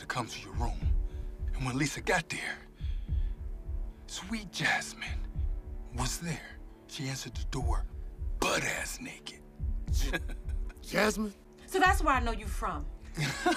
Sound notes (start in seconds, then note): 9.9 chuckling